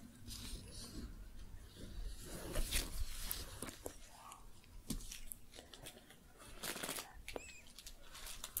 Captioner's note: shuffling, crinkling